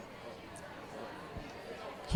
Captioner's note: indistinct chatter